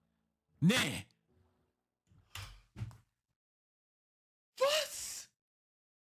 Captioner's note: speaking in foreign language